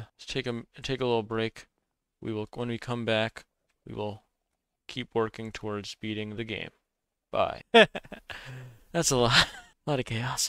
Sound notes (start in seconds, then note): 7.7 laughs; 8.1 sighs